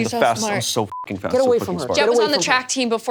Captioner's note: beep